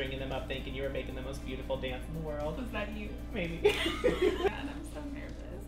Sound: both laugh

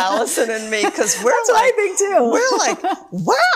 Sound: both laughing

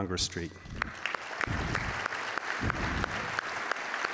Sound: claps

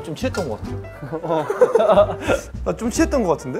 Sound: haha

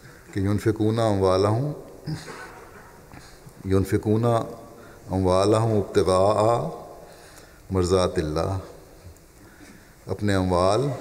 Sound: Arabic

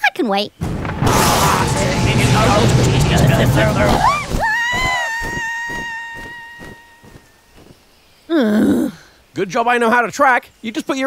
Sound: Kate demonically chants a incoherant spell; Kate screams; Lucy groans

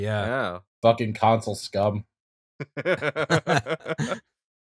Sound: laughter

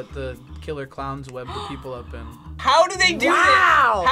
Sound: gasps

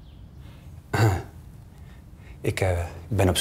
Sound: coughs

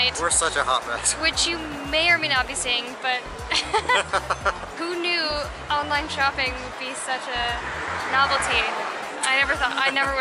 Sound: laughter

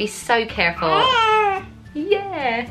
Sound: baby coos

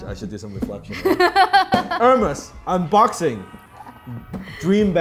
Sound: laughs

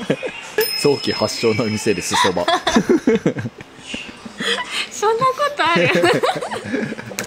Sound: laughs

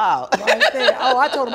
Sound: laughs loudly

